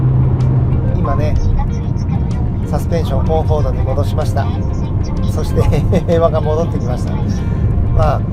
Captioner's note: laughs